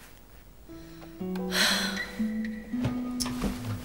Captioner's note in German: Seufzen, nachdenkliche Musik